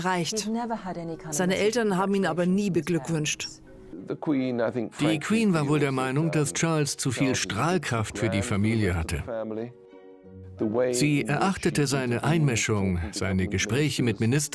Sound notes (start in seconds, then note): 4.2 voiceover